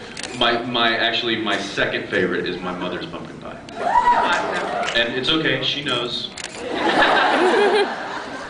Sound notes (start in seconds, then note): 3.8 scattered cheers; 6.6 laughs